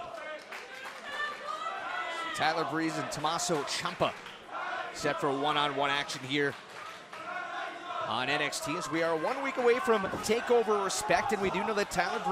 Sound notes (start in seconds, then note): 2.7 crowd chatter